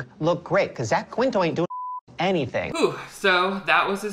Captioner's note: beep